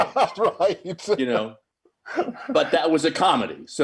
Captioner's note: laughing